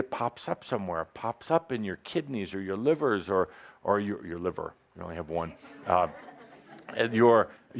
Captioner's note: laughter